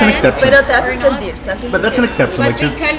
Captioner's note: Spanish